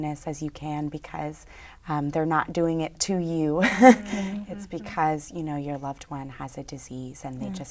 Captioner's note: laughs